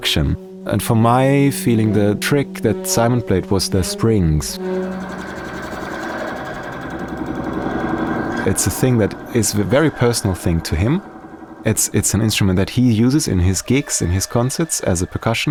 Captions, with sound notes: And for my feeling, the trick that Simon played was the springs. (REVERBERATING WHIRR) It's a thing that is a very personal thing to him. It's an instrument that he uses in his gigs, in his concerts as a percussionist,